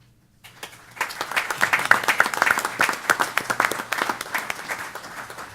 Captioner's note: applause